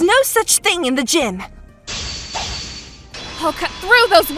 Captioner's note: fan